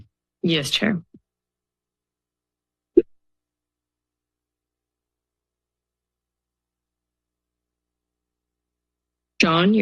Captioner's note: silence